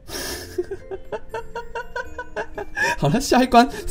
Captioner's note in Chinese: 笑聲~~~~